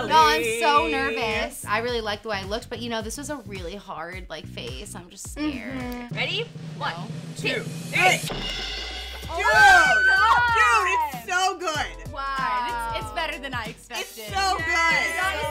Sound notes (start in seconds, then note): 6.1 drum roll; 9.2 everyone screaming to cheer